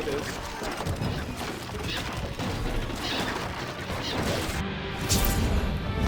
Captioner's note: sounds of battle